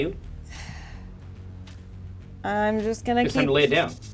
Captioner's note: sighs